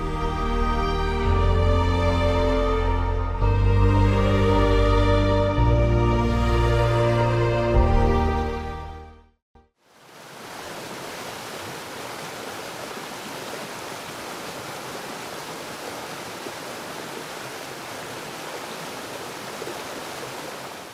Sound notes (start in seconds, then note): 0.0 light inspirational music; 10.5 rushing water